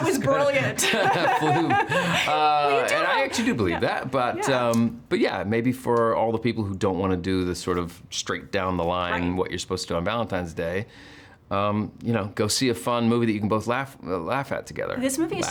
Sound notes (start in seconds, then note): 0.0 laughing